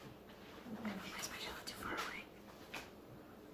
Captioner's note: whispered